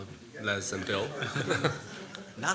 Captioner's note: laughter